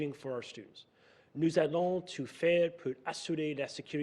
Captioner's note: speaking French